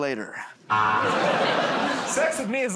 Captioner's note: buzzer